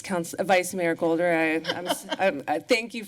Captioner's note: laughter